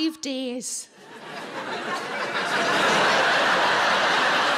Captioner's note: audience laughing